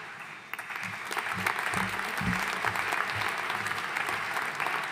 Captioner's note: audience applauding